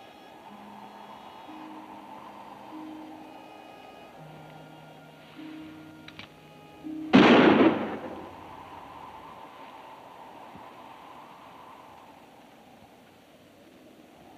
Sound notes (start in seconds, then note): 0.1 gentle music; 7.1 gun bangs; 8.8 wind howls